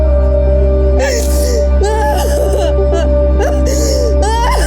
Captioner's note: cries